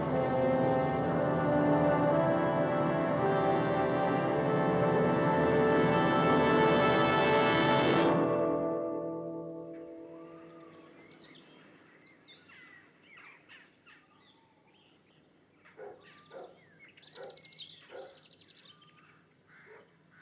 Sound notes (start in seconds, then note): 11.7 birds Chirping; 17.8 dog Barking